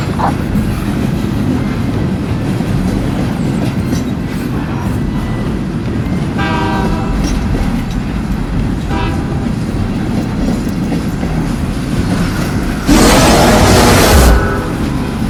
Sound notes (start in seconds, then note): 6.3 train honking